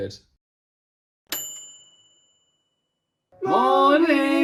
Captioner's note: bell dinging